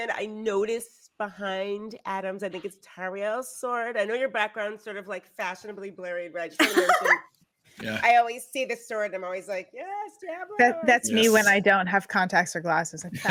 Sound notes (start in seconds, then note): 7.8 laughing